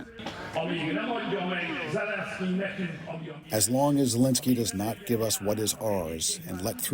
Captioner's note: through translator